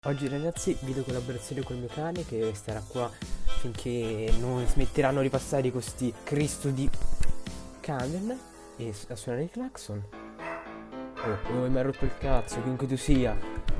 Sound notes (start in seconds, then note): 10.3 barking sounds